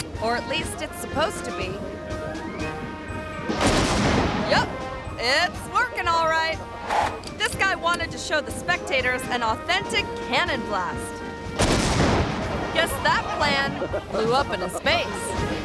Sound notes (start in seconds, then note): 3.5 cannon firing; 11.5 cannon firing